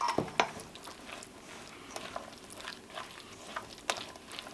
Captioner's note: meat squelching